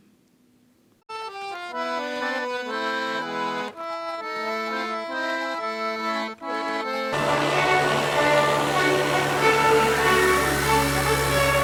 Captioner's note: music and blending noises